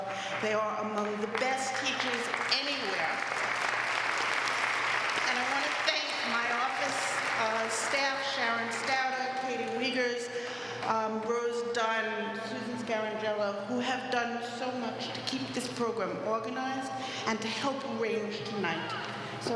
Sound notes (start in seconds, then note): 4.8 applause